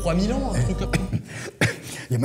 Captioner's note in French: tousse